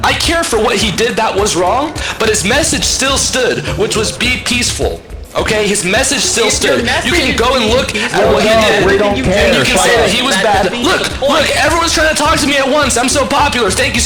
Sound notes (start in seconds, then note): 7.4 overlapping chatter